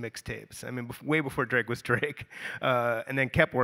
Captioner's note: chuckles